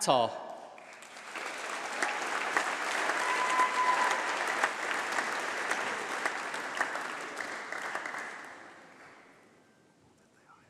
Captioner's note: applause